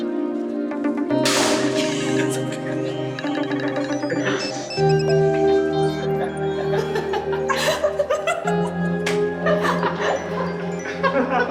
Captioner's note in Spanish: Risas